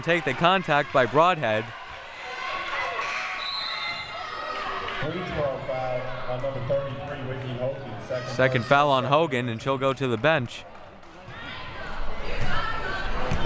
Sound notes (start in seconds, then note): 3.3 whistle blowing